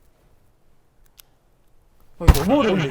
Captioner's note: rustle